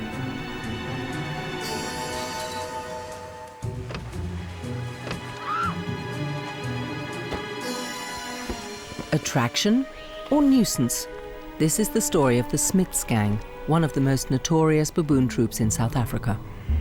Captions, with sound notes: (suspenseful music) (woman screaming) Attraction or nuisance? This is the story of the Smits gang one of the most notorious baboon troops in South Africa.